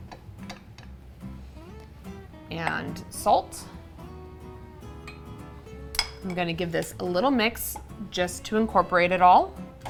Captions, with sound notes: and salt. (class clinks) I'm gonna give this a little mix just to incorporate it all.